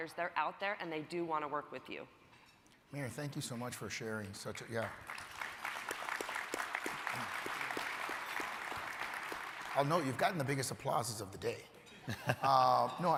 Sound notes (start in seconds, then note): 4.6 crowd applauding